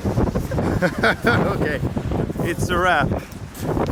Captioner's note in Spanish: Risas y locura